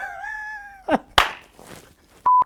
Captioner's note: laughs